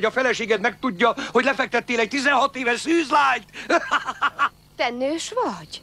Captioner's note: laughs